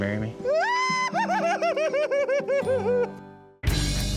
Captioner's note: squealing